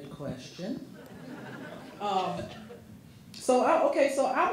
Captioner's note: audience laughing